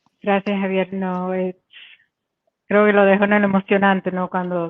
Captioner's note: speaking in Spanish